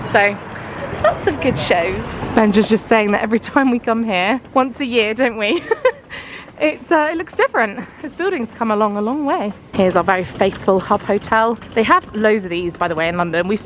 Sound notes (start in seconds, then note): 5.4 laughing